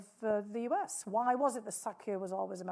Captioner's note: speaking foreign language